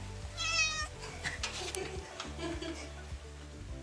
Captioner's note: cat meowing